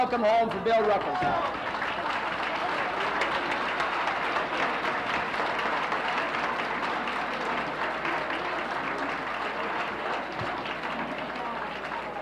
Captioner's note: applauses